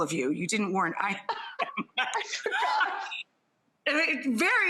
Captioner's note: Priyanka laughs